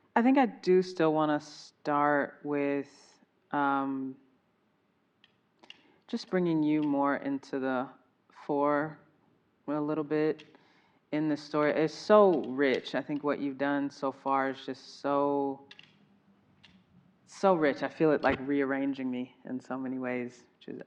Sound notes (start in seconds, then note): none